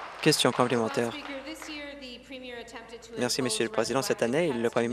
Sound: applause

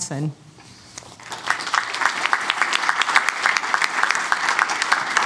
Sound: applause

